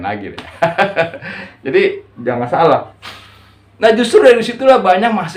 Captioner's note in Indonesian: tertawa